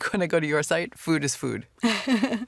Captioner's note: laughs